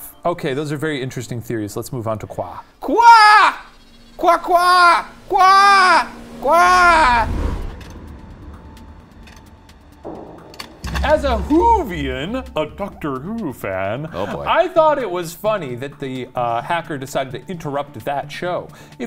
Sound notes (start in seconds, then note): 6.3 screen whooshing; 8.7 gentle mysterious music